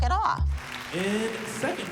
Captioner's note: audience applauds